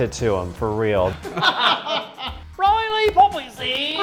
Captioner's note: laughs